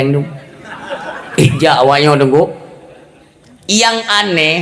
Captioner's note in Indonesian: tertawa